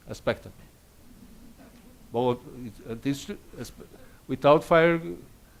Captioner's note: audience laughs